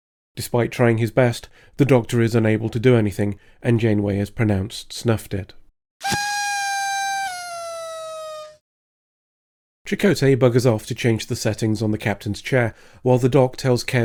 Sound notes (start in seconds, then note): 6.0 party blower noise